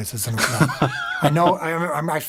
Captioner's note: laughs